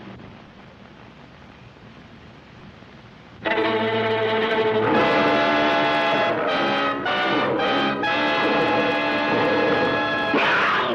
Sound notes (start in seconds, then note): 3.5 suspenseful music; 6.3 gorilla snarls